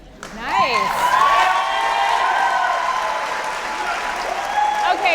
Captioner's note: audience applauding